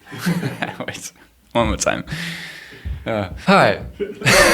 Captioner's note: laughs